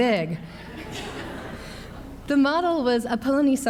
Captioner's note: laughs; audience laughs